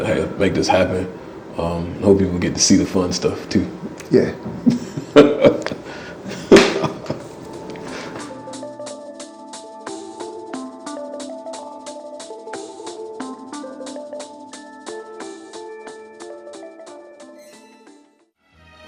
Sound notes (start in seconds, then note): 4.6 laughing